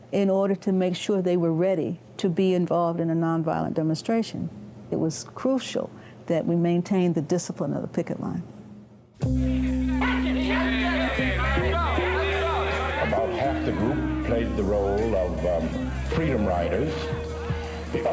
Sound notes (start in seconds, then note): 9.3 people yelling